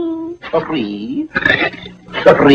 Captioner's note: crunch